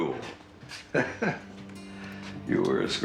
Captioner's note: Nick chuckling